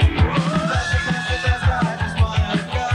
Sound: family screams

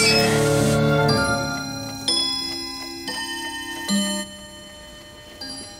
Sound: clock chimes

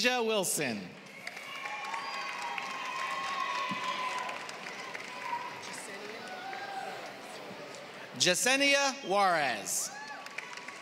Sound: applause; applause

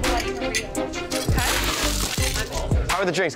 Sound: ice crunching

